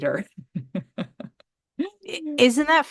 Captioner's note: laughs